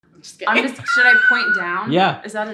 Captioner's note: laughs